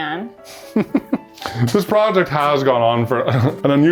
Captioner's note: chuckles